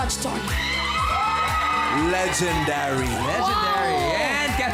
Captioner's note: audience cheering